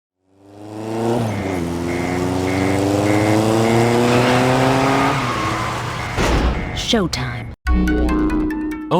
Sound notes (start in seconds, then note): 0.2 engine revs